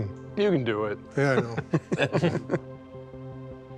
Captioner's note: chuckling